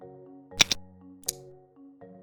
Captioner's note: click sound